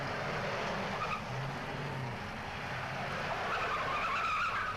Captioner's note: tires squealing